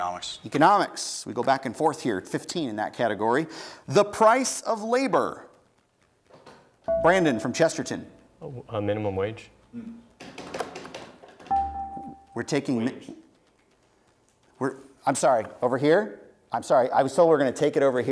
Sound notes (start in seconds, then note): 6.9 buzzer beeps; 9.5 buzzer beeps; 10.2 tapping